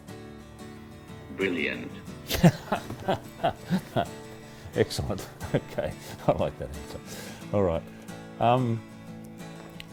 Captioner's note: laughs